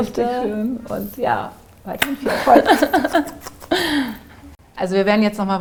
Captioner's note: kissing & Giggles